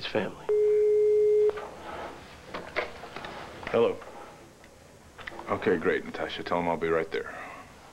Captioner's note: intercom beeps